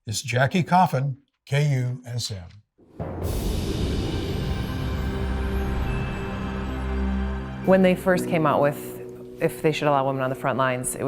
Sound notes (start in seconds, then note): 3.0 wind whooshing; 3.1 soft music